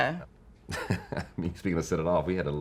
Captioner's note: laughing